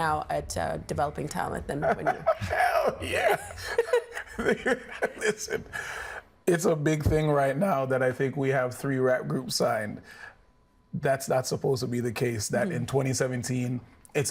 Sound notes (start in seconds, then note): 5.8 laughing